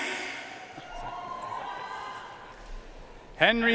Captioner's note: audience cheering and applauding